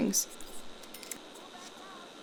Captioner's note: "spend simoleons" sound effect